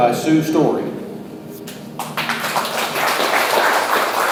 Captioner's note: audience applauds